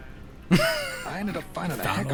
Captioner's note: laughs